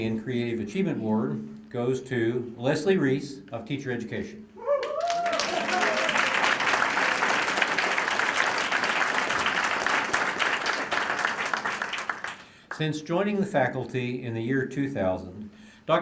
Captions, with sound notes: AND CREATIVE ACHIEVEMENT AWARD GOES TO LESLIE REESE OF TEACHER EDUCATION. [ APPLAUSE ] SINCE JOINING THE FACULTY IN THE YEAR 2000,